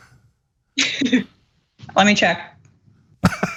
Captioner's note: laugh